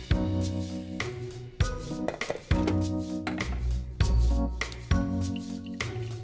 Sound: coffee preparation noises

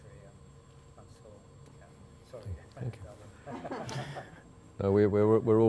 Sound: laughter

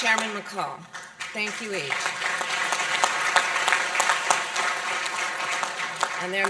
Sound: applause

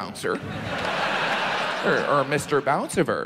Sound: audience laughs

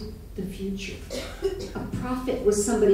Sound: coughing

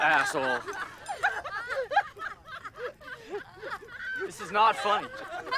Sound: all laugh

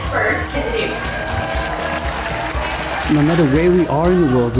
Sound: cheering and applause

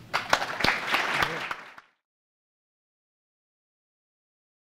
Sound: audience applause

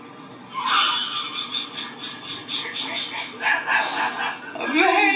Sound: laughs

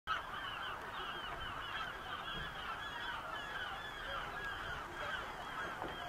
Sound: seagull noises

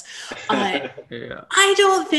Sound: chuckles

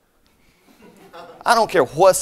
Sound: scattered laughter

